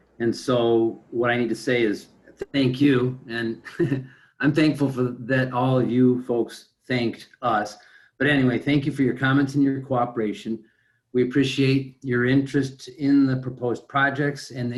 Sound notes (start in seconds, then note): 2.4 laughing